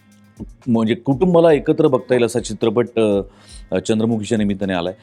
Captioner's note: none